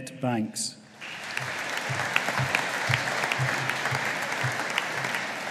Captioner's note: audience applauding